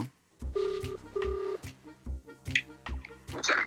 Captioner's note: dial tone